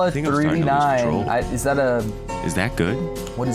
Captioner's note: none